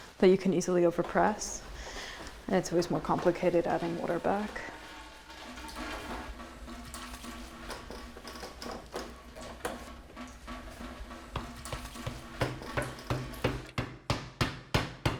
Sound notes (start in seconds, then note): 5.2 press clanks; 6.3 water plashes; 11.3 mallet thuds